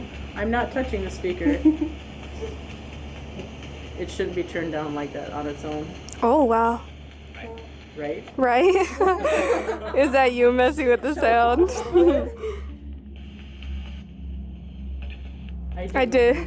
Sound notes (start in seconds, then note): 8.4 group laughing